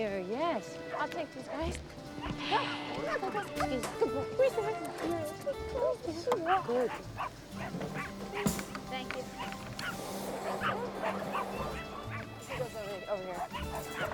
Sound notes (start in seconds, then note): 3.6 barking